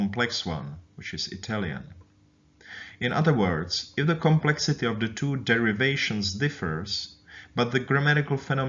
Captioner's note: Italian